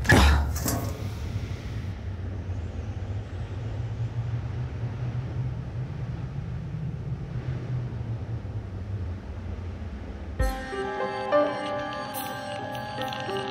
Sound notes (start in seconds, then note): 1.4 wind blowing; 10.4 haunting music